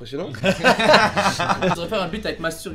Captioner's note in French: Rires